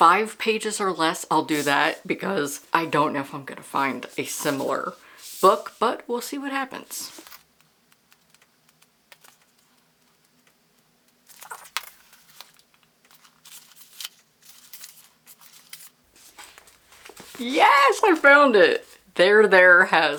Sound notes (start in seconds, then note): 7.2 pages flipping; 7.2 silence